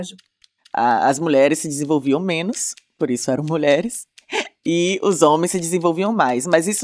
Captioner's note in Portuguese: risos